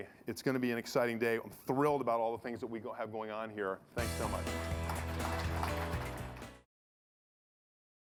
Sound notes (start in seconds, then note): 4.0 audience applauding; 4.0 energetic music